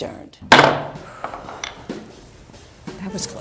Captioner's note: gavel banging